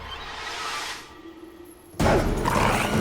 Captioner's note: dog barking